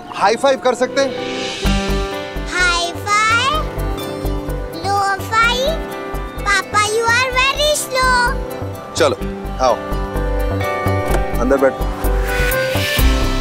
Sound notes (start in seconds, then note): 11.0 Door opens